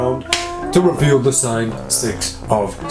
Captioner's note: card snaps